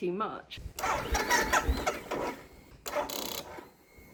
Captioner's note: bike trying to start; clicking sound